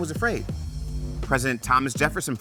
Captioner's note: graphic hums